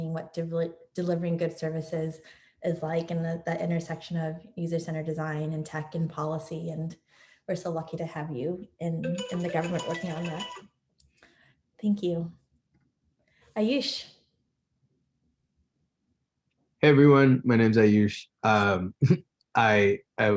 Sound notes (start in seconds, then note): 9.0 device beeping; 18.4 laughs